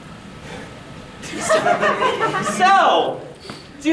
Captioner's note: audience giggling